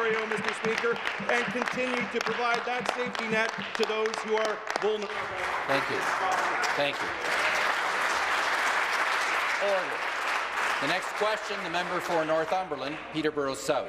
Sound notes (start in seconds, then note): 5.3 applause; 11.2 applause